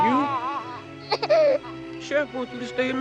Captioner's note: Henry crying